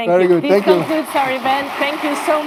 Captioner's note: audience applauds